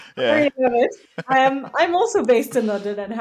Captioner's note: laughs